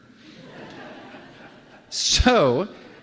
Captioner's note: laughter